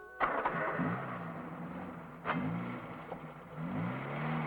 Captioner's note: engine starting